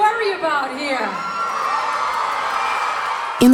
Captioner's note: cheering and applause